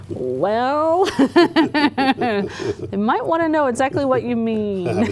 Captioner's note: laughter